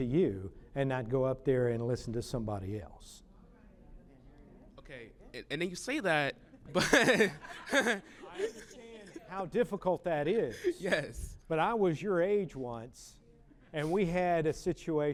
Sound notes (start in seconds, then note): 6.7 laughter